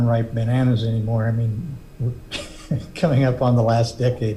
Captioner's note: laughs